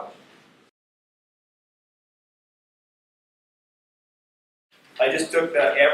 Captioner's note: silence